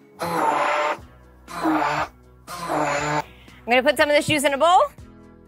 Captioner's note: blender whizzing